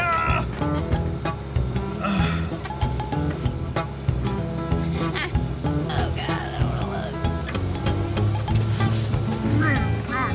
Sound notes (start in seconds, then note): 2.0 grunts